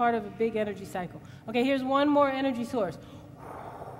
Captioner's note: blows